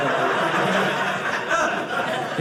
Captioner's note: audience laughing